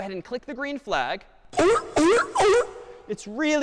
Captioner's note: sea lion barking